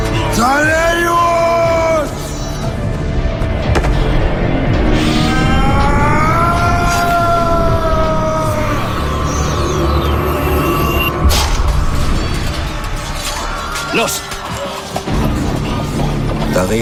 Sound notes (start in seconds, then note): 5.7 yelling